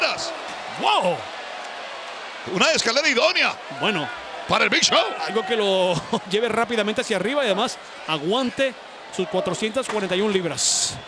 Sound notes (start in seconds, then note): 5.8 laugh